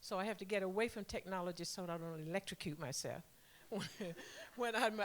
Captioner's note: laughter